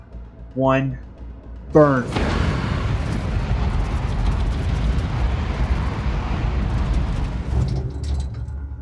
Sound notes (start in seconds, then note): 1.8 spacecraft rumbles